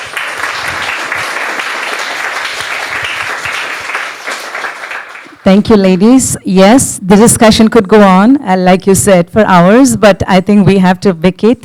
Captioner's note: audience applause